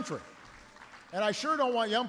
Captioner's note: applause